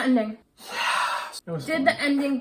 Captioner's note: sighs